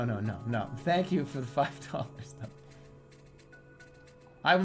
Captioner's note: chuckles; chuckles